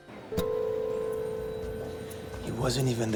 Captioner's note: people chatter indistinctly; phone rings in distance